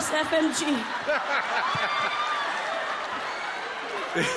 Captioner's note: laughs